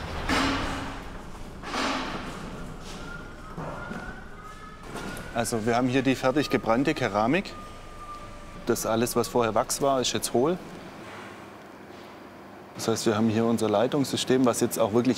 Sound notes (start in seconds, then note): 0.0 rumble; 3.2 someone whistles